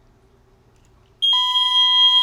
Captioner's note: alarm